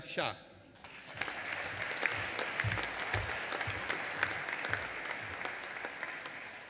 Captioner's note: audience applauding and cheering